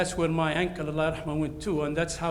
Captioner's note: speaks in foreign language